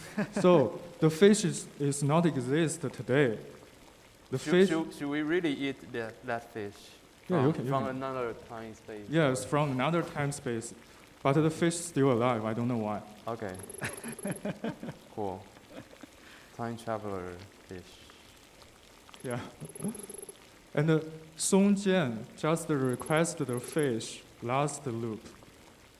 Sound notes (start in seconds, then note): 13.8 laughs